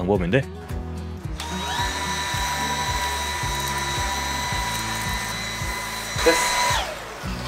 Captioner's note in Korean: 청소기 소리